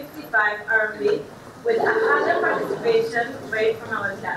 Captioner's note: audience gasping